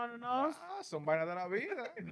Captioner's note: speaking In Foreign Language